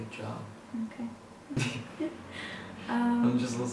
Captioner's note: laughing